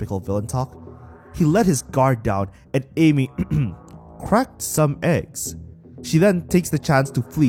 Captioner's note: ehem